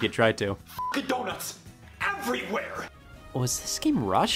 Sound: beep

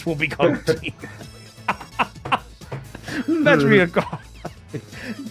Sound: laughs

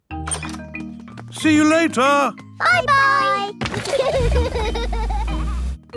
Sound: laughter

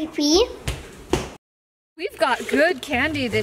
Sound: footsteps thumps

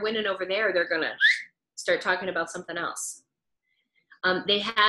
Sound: whistles

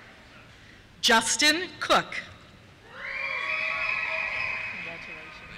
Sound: cheers

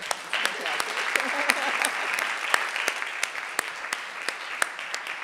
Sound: audience applauding

